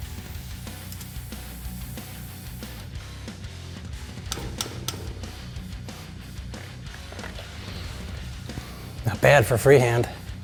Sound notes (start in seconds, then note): 0.0 intense rock music; 0.0 tool whirring; 4.2 part thuds